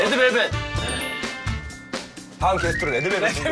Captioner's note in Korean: 딩동댕